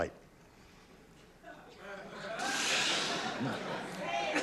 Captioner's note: laughter